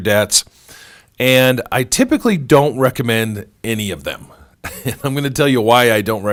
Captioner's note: laughs